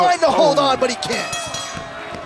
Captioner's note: bell ringing